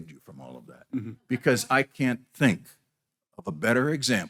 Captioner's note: chuckles